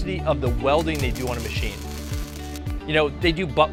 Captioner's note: welding machine crackling